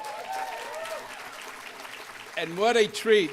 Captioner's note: applause